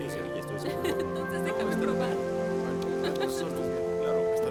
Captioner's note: laughs